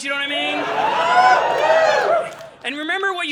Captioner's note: audience laughing